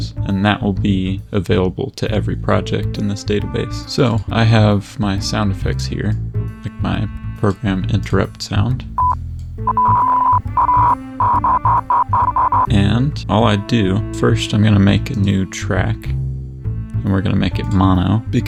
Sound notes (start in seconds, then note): 9.6 beep beep; 9.6 beep beep beep beep beep beep beep beep